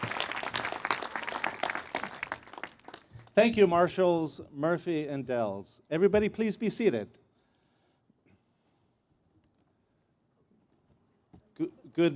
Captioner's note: applause